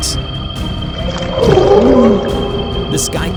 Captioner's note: demonic gurgle